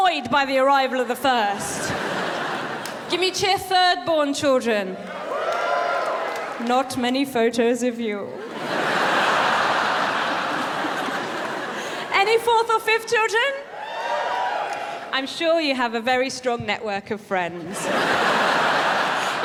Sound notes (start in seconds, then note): 5.0 cheers from audience; 13.7 fourth and fifth-born audience cheers